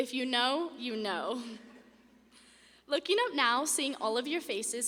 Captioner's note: none